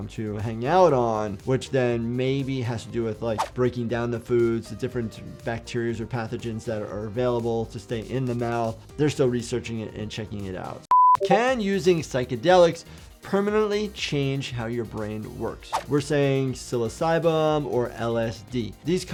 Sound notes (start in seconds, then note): 10.9 beeps; 15.7 video whooshes